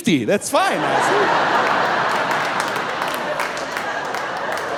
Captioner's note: audience laughing